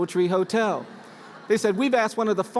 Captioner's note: laughter